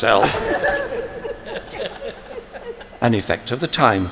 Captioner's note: other cabinet members laugh